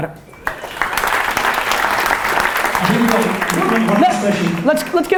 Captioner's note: applause